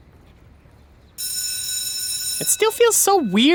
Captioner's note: school bell ringing